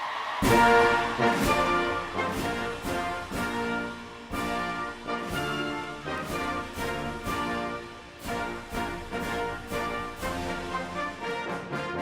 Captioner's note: applause